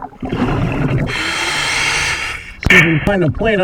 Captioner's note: regulator hissing